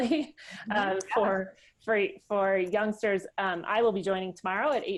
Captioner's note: laughs